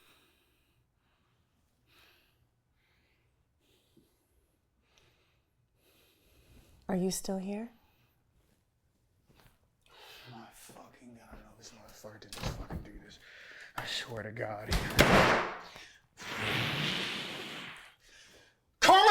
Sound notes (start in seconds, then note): 14.6 door slams; 16.6 Carlton groans